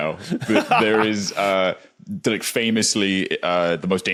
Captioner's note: laughs